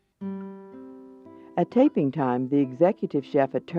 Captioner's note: voiceover